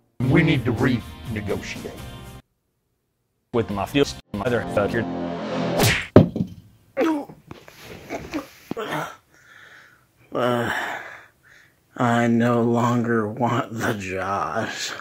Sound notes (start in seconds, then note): 5.7 punch